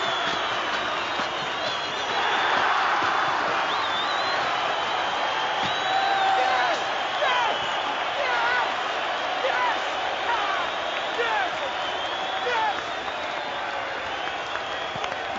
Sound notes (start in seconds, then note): 0.1 cheering; 6.7 Hansie shouting